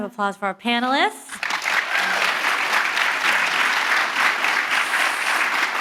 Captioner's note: audience applauding